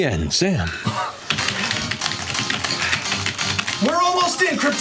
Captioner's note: techno beat; frantic keyboard clicking